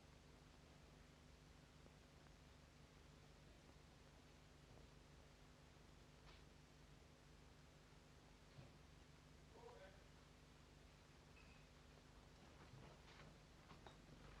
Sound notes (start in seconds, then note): 9.5 man talking, quietly